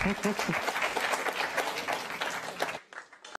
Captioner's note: applause